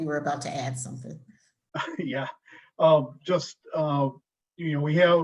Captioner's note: chuckling